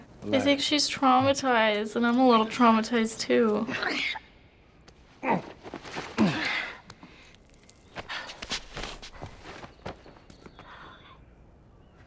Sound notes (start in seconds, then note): 3.6 Ellie groans; 3.6 Joel grunts; 7.1 dust falls; 8.3 scrambling steps